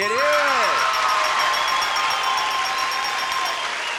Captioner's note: bell chiming